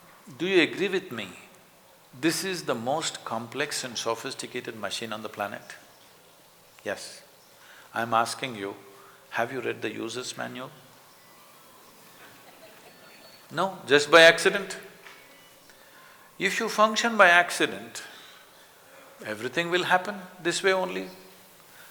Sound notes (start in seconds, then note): 12.2 few Laughs